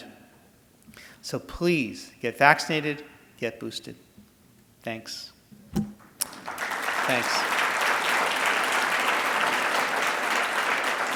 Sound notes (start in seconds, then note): 6.0 audience applauding